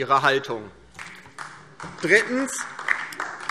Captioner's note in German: Beifall DIE LINKE